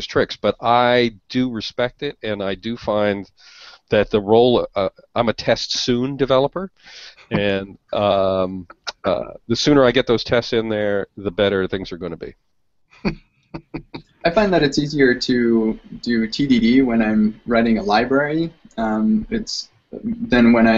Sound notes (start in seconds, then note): 13.5 laughs